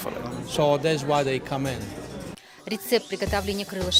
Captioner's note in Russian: английская речь